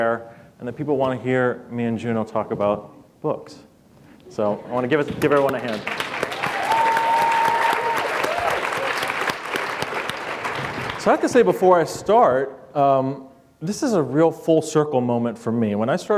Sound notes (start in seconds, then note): 5.2 applause